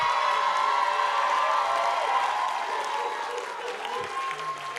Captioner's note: applause